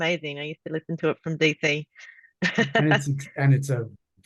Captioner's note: laughs